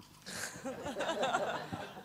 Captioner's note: laughter